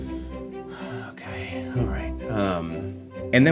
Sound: sighs

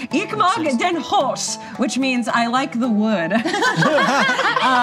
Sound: yells in German; laughter; laughs

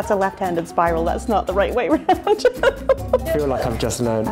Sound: laughs

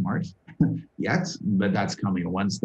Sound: laughter

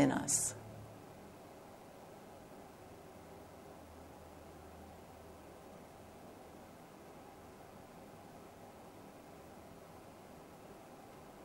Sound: moment of Silence

